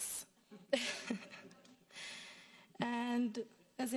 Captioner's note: laughs